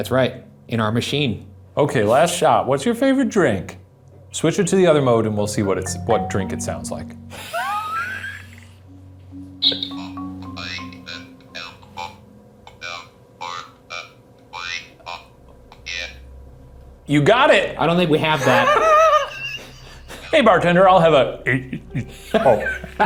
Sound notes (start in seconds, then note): 7.3 both laughs; 10.0 Ovilus faintly speaking; 18.2 both laughs; 22.0 faintly speaking